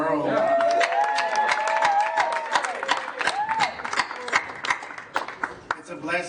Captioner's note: applause